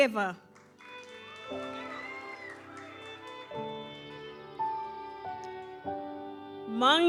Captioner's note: gentle music continues; audience cheers